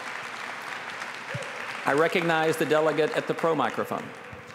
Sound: applause

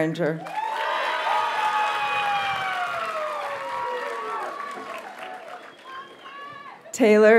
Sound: audience cheers and applauds

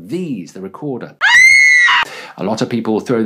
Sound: scream

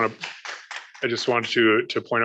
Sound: applause

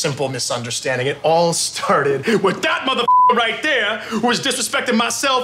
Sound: beep

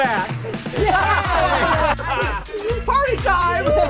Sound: laughing

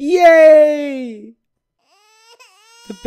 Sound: baby crying

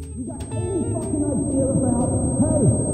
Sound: distant shouting

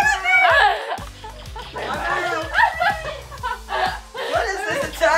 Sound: laughing

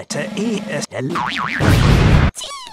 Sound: vibrato'd boing sfx

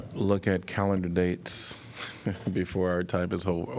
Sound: laughter

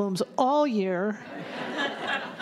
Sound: laughter

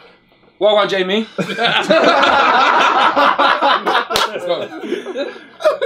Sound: all laughing

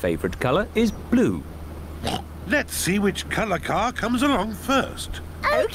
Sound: oinks

